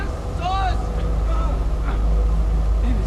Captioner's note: grunts